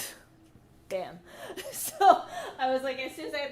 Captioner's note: laughs